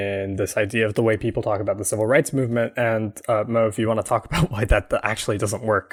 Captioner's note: laughs